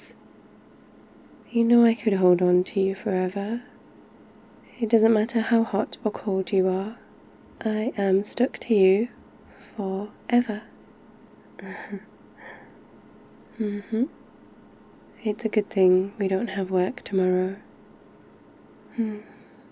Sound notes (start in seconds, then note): 11.5 small laugh